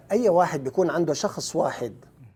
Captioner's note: speaking Arabic